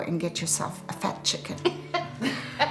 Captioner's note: laughing